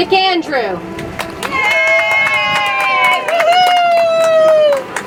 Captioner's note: audience applauds